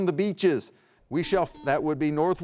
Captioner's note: buzzer beeps